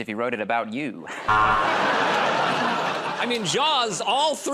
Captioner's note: buzzer